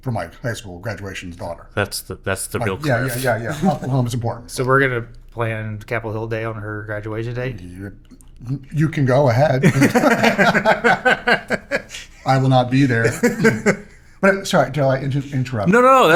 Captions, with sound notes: for my high school graduation daughter. Yeah, yeah, yeah, yeah, yeah, and Oklahoma's important. So we're gonna plan Capitol Hill Day on her graduation date? You can go ahead. (Laughing) I will not be there. Sorry, Joe, I interrupted.